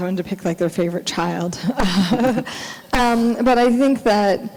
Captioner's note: laughing